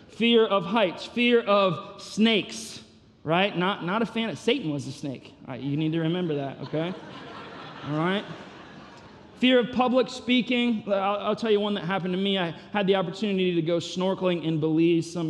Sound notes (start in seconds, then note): 6.0 congregation laughing